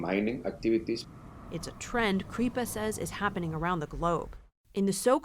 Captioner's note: voice-over